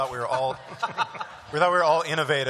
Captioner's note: laughter